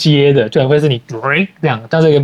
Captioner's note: mimicking